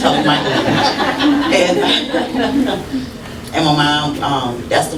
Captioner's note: laughter